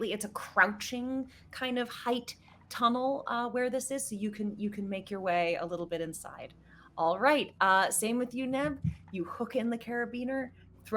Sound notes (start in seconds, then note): none